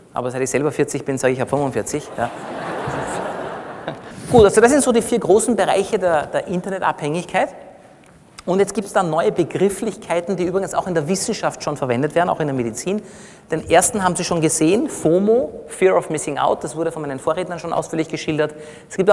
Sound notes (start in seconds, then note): 2.0 laughter from the audience